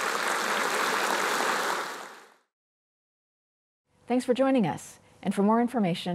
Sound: applause

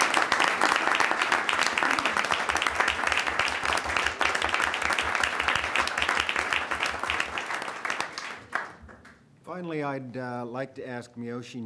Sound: applause

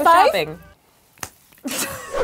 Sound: hands slapping; playful haunting music

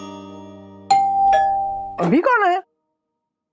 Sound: doorbell rings

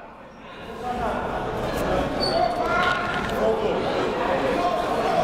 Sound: crowd talking

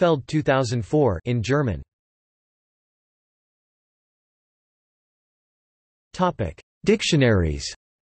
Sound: in German

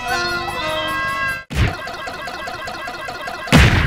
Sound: Super Smash Bros Punch Sounds

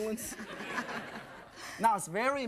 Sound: crowd; laughter

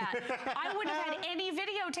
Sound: laughter

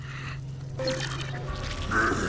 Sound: beeping; groaning

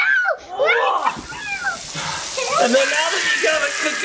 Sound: pan sizzling; person sighing

